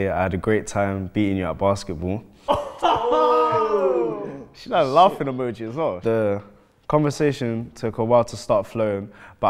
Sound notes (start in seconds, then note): 2.4 laughing